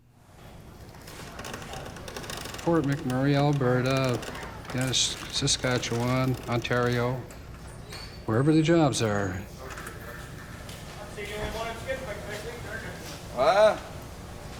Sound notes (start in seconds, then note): 10.5 shouting